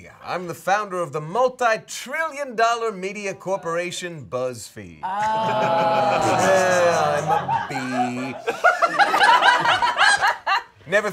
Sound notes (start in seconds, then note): 5.0 all exclaiming; 8.9 all laughing